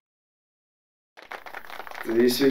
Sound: applause

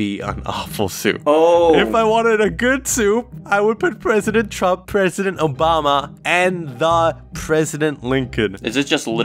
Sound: nearly laughing

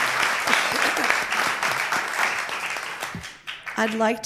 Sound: applause

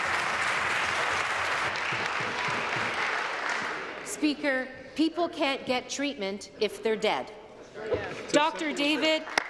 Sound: applause

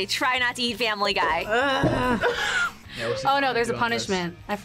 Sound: groans

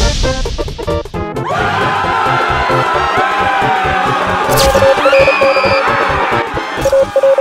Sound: all screaming; signal sounds

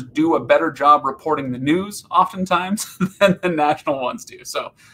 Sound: laughing

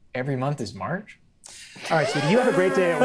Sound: players laughing

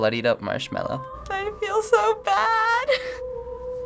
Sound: chuckles slightly

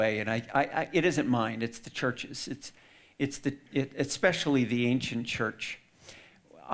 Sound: none

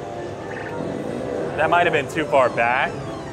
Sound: machine bleeps; machine zips

